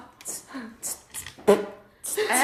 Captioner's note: tss tss pfft